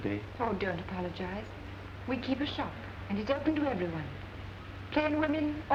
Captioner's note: none